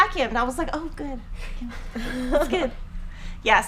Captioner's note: laughing